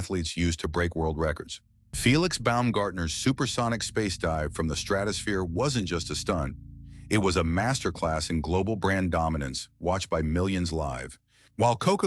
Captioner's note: SFX: sonic boom thunder